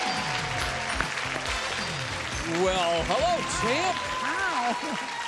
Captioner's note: applause, cheering